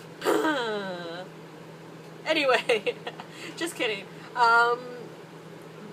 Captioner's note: laughter